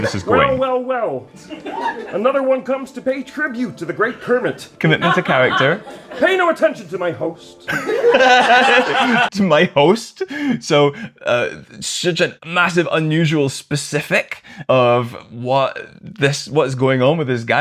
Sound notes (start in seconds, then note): 7.6 laughter